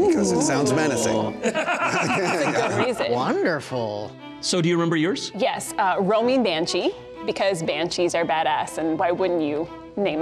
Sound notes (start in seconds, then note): 1.1 laughing